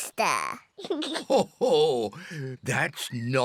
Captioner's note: giggles; laughs